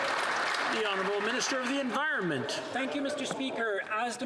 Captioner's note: some Applause